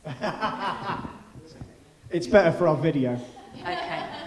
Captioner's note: laughing